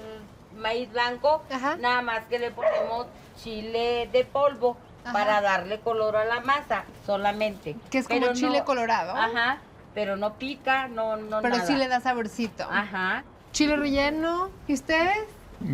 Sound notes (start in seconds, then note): 2.6 dog barks; 3.8 speaking Spanish; 13.5 all speaking Spanish